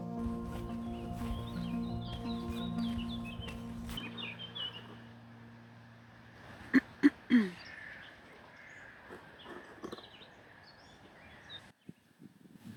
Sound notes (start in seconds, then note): 0.0 nature noises & footsteps; 6.7 clears throat